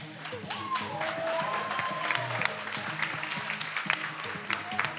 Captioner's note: attendees applauding